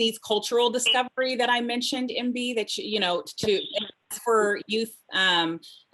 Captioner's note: audio stutters